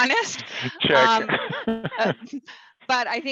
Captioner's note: laughs